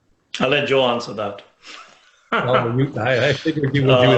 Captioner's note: laughs